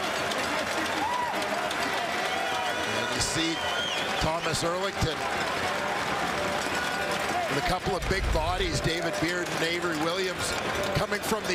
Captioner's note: crowd Noise